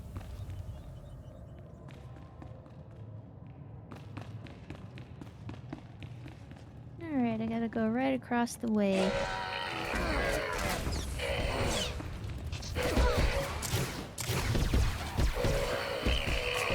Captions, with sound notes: (footsteps) (footsteps) All right, I gotta go right across the way. (growling) (tense music) (gun shots) (tense music)